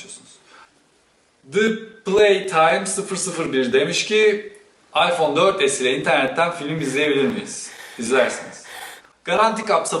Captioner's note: female breathing deeply in the background